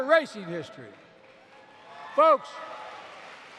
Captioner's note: applause